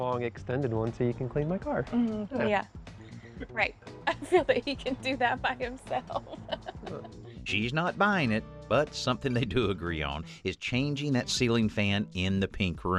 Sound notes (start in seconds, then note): 6.1 laughter